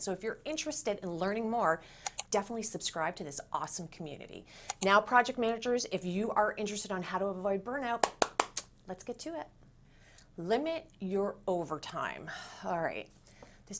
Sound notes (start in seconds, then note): 8.0 claps